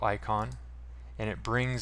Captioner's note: mouse click